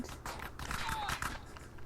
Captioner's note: gunfire